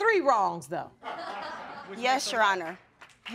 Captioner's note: audience laughs